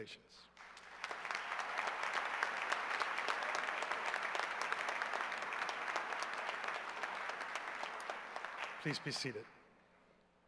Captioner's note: cheers and applause